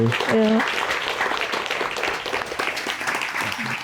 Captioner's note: applause